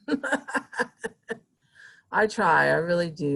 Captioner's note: laughing